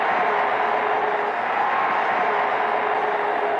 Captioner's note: cheering, horns blaring